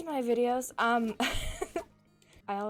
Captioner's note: laughs